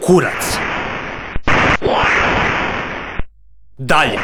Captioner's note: sounds from the game